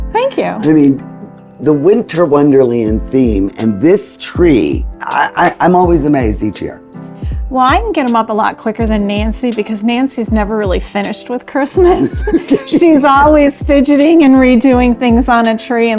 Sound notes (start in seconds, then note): 11.8 laughing